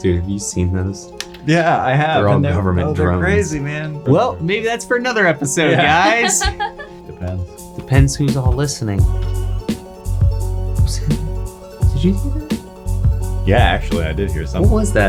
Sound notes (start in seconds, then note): 5.6 laughing; 9.4 smooth hip hop music